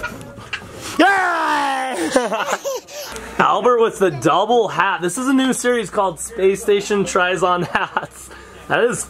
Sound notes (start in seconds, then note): 1.6 laughing